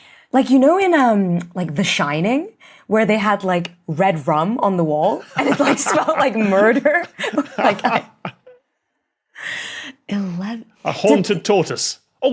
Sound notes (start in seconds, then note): 5.3 both laughing